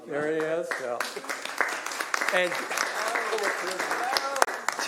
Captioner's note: applause